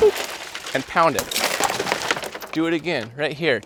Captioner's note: glass shattering